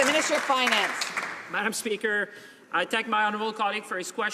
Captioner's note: some Applause